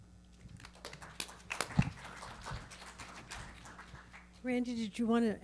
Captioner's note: audience and panelists clapping